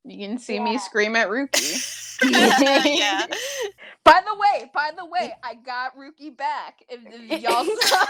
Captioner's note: giggling